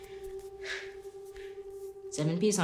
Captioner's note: Ally panting